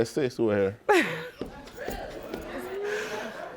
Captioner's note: laughing